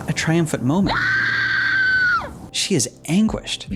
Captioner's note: screaming